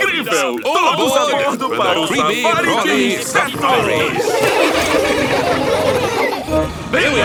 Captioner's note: laughing